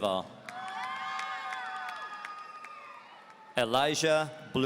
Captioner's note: audience cheering